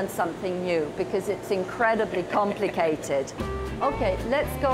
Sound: chuckling

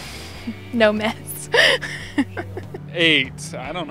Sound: laughing

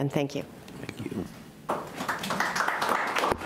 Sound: clapping

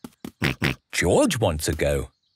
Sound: snorts

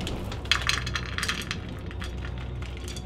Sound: pouring snack into bowl

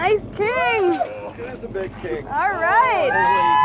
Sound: none

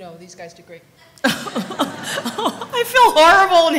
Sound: laughter

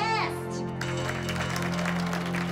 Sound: applause

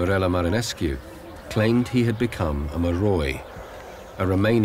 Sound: speaking in foreign language

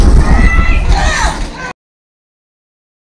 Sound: shouting

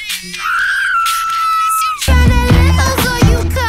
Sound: Velma screams

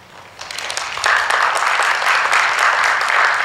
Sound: applause

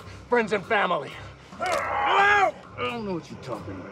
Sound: screams; bone cracks

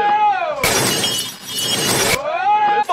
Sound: glass shattering; glass shattering, reversed

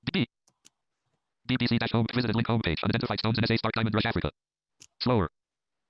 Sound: screen reader reads fast

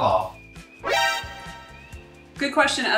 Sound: alarm rings

